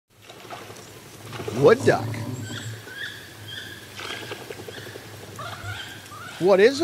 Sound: wood duck sounds

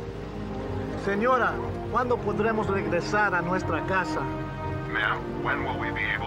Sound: speaking spanish

